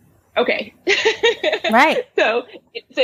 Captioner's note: laughs